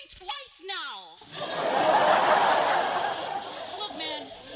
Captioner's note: laughter